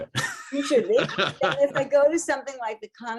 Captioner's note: laughs